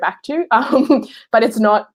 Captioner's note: laughing